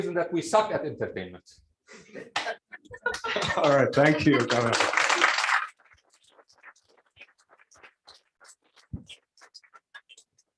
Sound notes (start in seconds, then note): 2.0 laughter; 5.0 applause